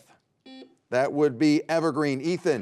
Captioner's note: buzzer beeping